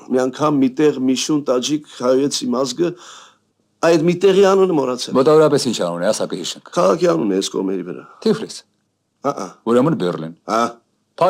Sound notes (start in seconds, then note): none